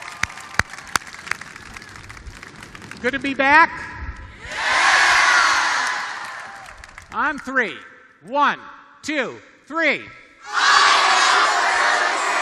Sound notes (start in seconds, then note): 7.2 shouting; 8.5 cheers and applause